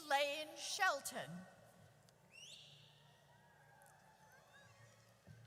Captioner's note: audience cheers